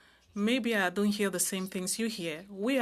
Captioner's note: speaking French